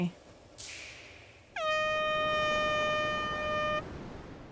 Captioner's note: contest horn